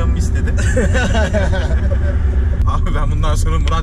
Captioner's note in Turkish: gülüşürler